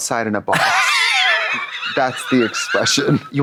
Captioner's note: rasps